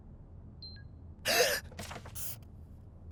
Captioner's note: gasp!